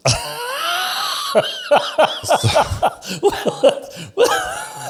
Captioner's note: laughs